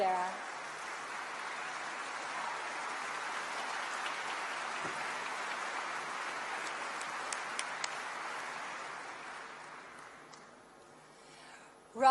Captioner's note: applause